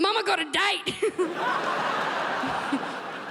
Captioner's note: crowd laughs